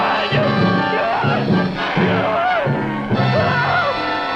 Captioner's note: Byron screaming